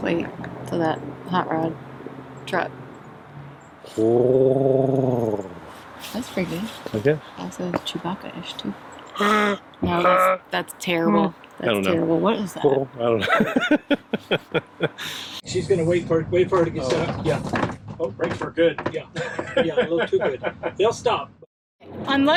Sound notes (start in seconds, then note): 4.0 rumbling noise; 13.0 chuckles; 19.1 chuckles